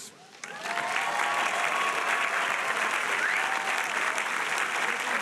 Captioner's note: audience applauding and cheering